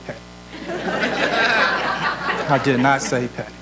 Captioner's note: audience laughs